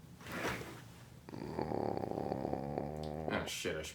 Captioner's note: stomach growls